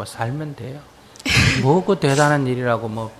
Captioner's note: questioner laughs